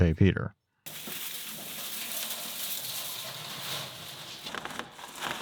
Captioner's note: material rustling